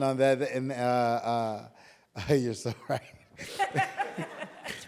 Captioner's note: chuckling; laughing